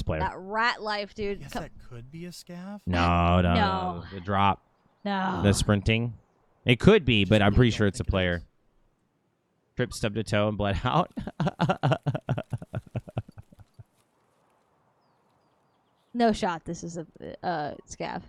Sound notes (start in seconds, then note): 13.5 laughs